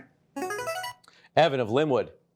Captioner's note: buzzer chimes